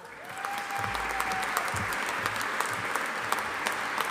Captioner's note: audience applauding